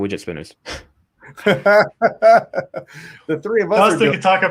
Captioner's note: laughs